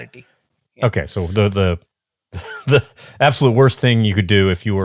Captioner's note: chuckles